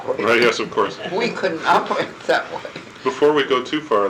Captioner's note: laughing